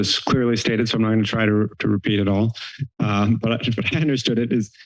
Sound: laughing

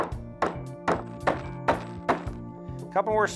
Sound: hammering sounds

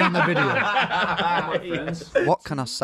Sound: laughing

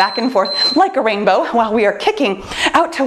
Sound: timer beeps

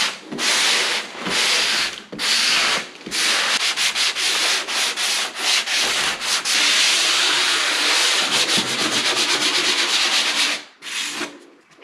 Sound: sanding sound

